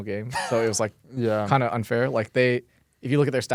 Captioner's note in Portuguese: risos